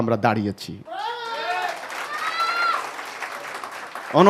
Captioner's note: clapping